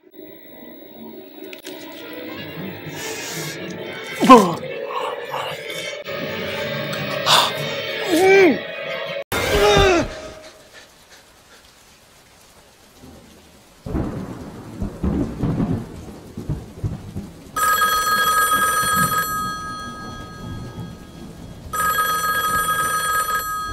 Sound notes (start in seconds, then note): 0.2 music Intensifies; 4.0 GASP for words; 8.1 Mumbles like Kodak Black; 10.6 thunderstorm and Raindrops in the background; 17.6 phone Rings